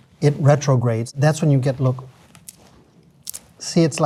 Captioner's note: tortilla crunching